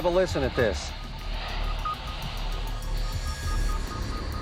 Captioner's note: static and beeping